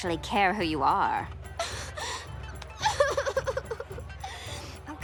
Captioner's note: crying